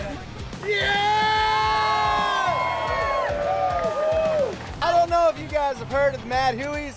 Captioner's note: cheering